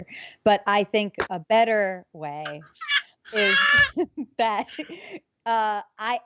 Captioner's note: laughs